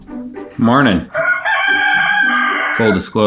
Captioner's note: bouncy music; projector whirring; rooster crows